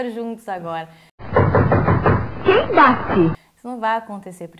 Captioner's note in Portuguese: som de batida na porta